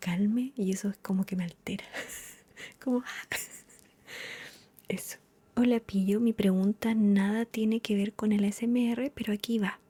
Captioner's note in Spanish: risas